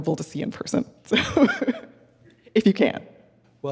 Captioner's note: laughing